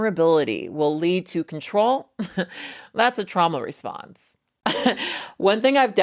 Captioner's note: chuckling